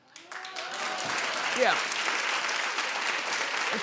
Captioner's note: applauding